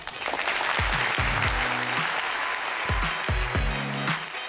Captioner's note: audience applauding